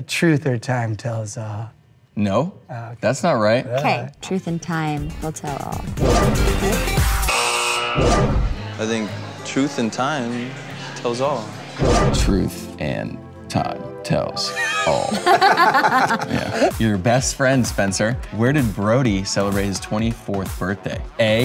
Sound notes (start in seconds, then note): 6.5 buzzer buzzing; 14.8 laughing